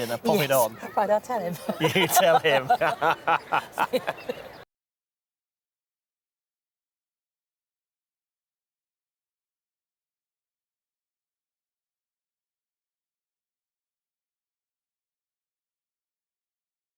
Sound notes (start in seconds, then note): 1.6 both laugh